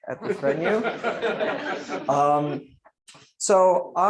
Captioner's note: laughter